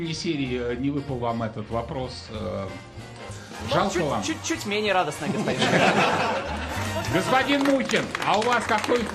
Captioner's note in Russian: смех